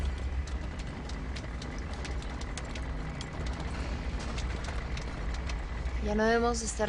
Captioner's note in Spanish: Sonido del carro